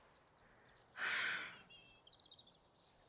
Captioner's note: exhales